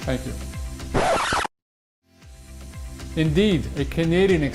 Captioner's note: needle scratching across a record